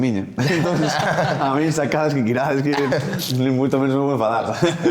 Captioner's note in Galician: risas